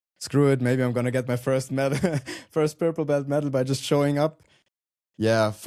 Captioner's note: chuckles